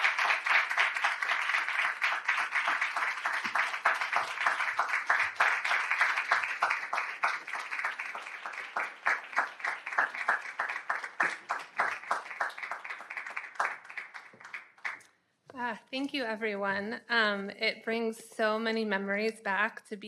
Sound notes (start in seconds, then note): 4.2 audience applauding continues